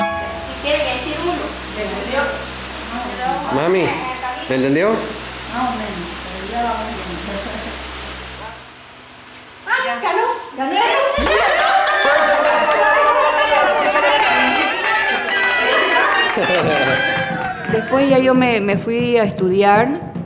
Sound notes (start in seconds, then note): 11.1 laughter and celebration